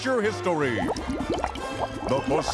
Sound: bubbling

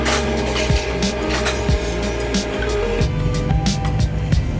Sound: machine roaring

